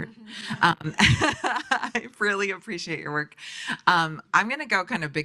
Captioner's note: laughs